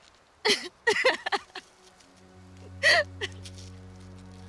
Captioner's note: Edith laughs